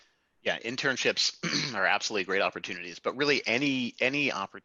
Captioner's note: cough